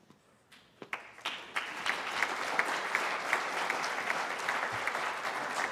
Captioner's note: applause